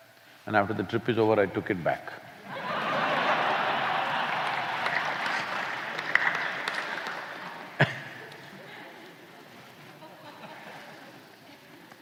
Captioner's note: laughter